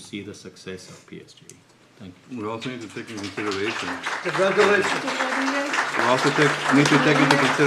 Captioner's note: applause